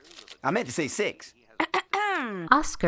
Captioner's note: ahem